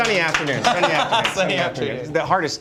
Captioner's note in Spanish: risas